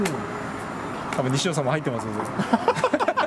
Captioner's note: laughs